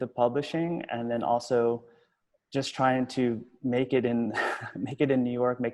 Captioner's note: chuckling